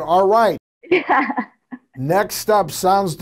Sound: laughs

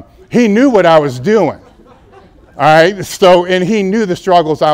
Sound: laughter

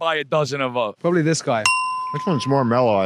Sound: ding

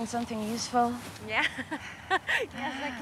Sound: laughing

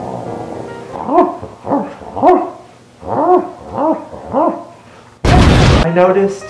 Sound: barking

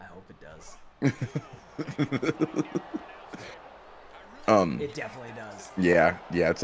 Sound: laugh

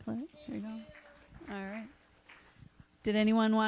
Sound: applause

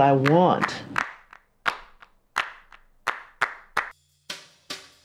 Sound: hands clapping

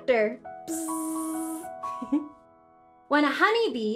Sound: buzzing

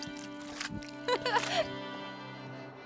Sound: laughing

